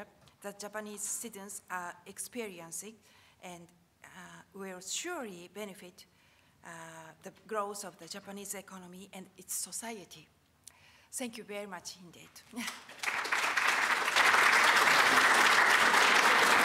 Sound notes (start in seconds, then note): 12.6 applause